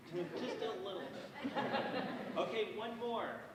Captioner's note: audience chuckles